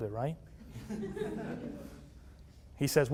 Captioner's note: laughter